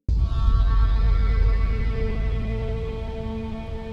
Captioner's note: eerie "bwaaam" noise. , you're jealous